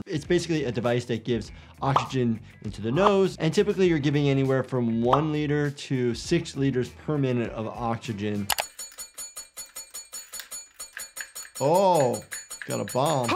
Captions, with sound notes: It's basically a device that gives oxygen into the nose and typically you're giving anywhere from one liter to six liters per minute of oxygen. (metal clangs) Oh, got a bomb.